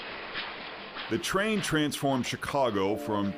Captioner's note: train chugs